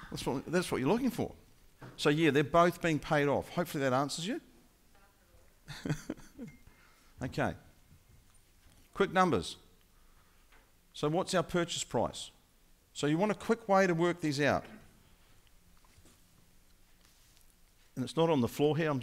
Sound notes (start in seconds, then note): 5.7 laughing